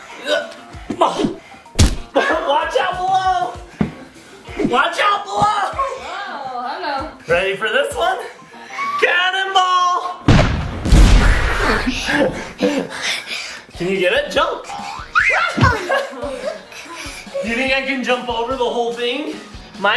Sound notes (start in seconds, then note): 1.8 thud; 9.5 gasps; 10.3 loud bang; 15.1 screams